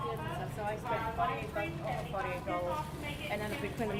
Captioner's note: store PA speaker in background